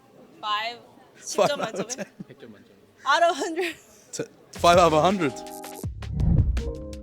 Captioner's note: laughs